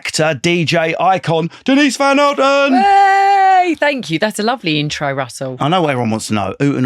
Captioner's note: cheering